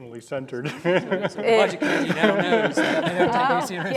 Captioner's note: audience laughs